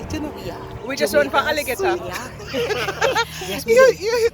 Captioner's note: laughter